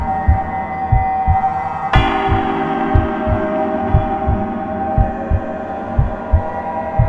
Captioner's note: eerie music; heart beating